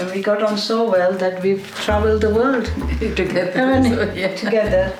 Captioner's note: chuckles